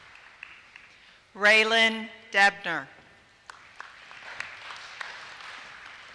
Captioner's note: applause